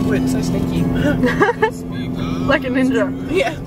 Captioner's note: laughing